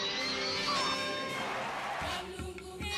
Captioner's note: audience cheering